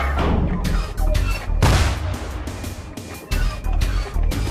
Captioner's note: tank fires